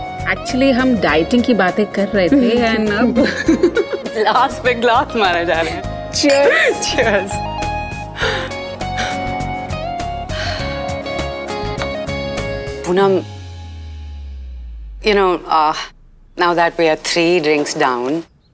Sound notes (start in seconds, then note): 3.1 both laugh; 10.3 Poonam sighs